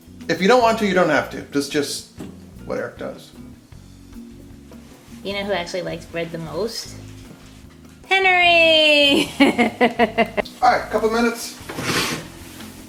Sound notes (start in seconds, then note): 9.0 laughs